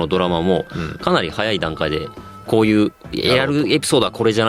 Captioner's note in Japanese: 鼻息